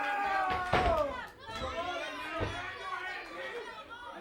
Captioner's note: crowd chatter